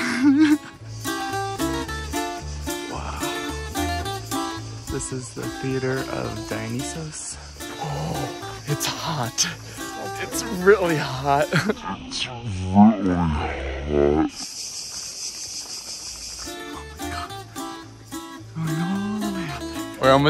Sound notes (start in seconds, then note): 0.3 bright music continues; 14.6 cicadas chirping; 16.5 bright music